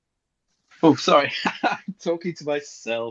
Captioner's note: laughs